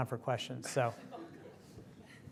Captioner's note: laughter